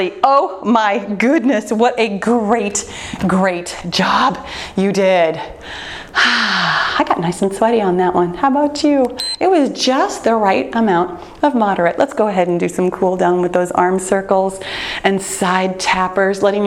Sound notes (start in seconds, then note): 5.7 sighs; 9.1 timer turns off